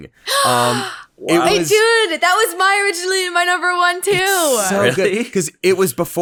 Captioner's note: gasps